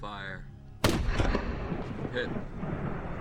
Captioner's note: gunshot